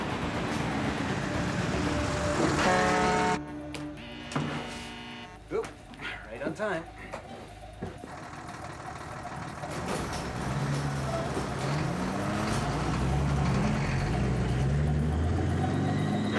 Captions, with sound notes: ( horn blares ) ( buzzer sounds ) Oop, right on time.